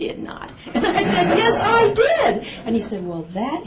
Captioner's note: laughter